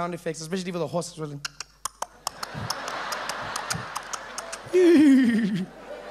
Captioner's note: horse galloping